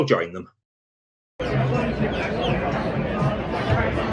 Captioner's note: pub noise and bird song